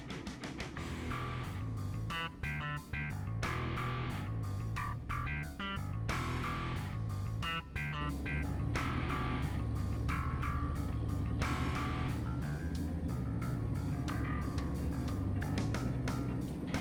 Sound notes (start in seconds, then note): 0.7 intense rock music continues; 8.5 tank engine running